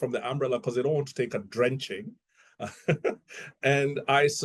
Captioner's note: laughs